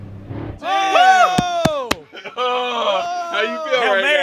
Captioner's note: everyone cheering